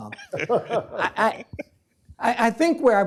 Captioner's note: laughs